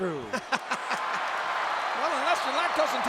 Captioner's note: audience cheering; Jim laughs